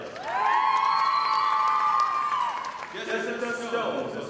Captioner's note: audience applauding